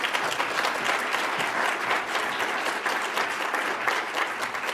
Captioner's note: audience applauds